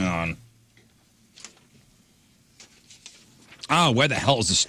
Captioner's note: blank Audio